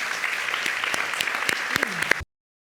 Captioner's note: applauding